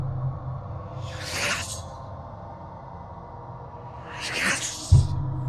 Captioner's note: ghost whispering